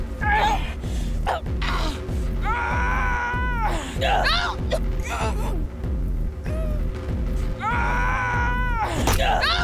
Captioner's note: screaming